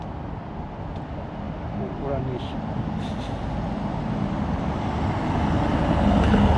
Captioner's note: laughs